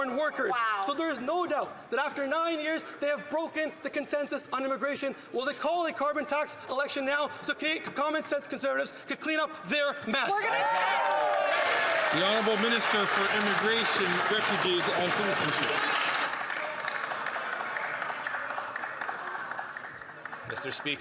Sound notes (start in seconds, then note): 15.0 some Applause